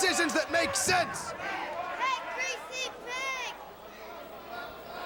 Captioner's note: crowd chatter